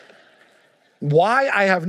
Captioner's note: congregation laughing